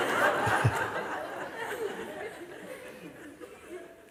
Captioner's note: laughter